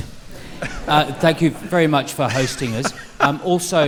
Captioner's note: laughter